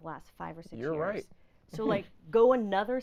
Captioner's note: laughing